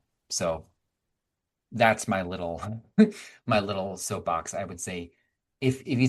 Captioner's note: chuckling